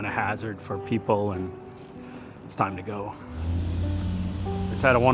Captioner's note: motor running